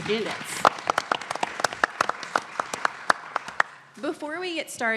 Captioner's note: audience clapping